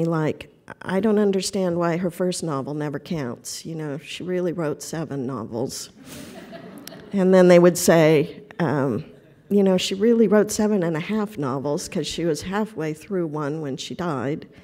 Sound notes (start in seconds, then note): 6.0 laughter